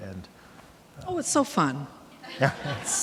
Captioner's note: audience laughing